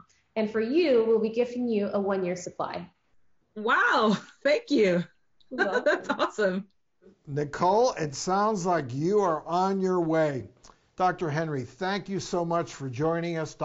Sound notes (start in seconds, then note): 5.5 laughs